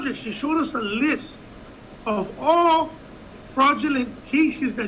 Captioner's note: none